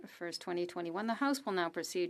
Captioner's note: speaking French